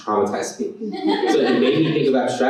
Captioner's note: laughter